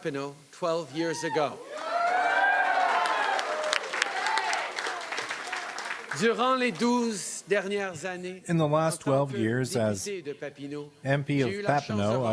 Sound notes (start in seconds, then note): 0.0 applause; 4.3 cheering and Applause; 10.6 speaking French